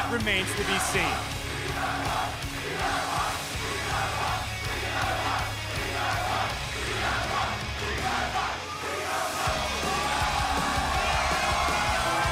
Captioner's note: crowd cheering